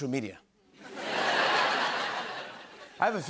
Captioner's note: laughter